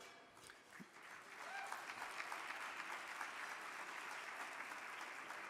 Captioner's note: audience clapping